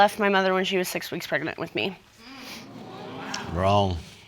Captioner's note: audience murmuring